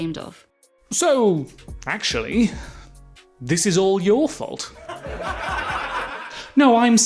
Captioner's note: audience laughs